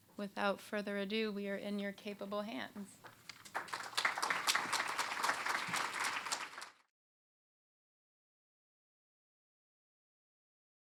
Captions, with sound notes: Without further ado, we are in your capable hands. [applause]